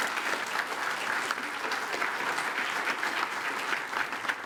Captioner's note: attendees applaud